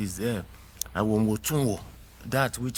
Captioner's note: speaking in foreign language